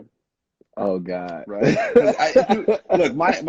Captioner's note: laughing